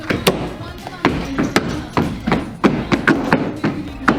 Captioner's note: stomping